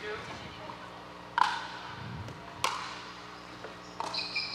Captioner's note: ball bouncing